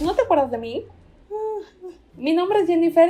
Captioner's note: sobbings